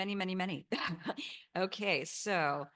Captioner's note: chuckles